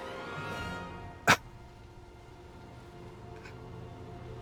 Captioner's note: laughs